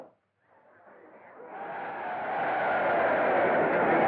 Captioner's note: crowd Cheering